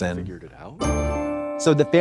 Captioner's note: bright chime